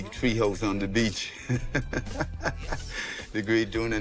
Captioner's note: chuckles